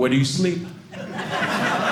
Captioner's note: audience laughing